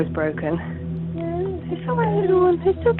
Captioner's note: baby crying